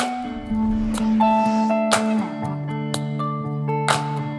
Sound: logo whooshing

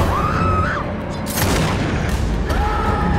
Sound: screaming and gun-shots

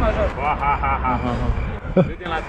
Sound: nervous laughter

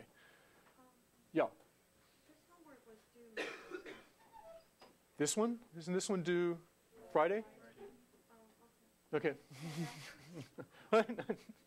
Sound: laugh

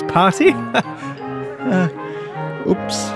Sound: laughs nervously

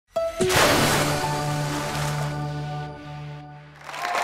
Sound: splash; audience applause

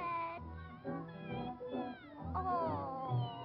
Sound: meow

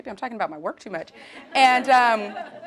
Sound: laugh

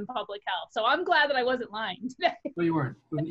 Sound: laughs

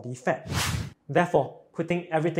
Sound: screen swooshes

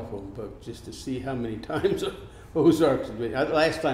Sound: laughs

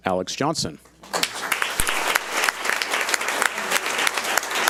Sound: audience applauds

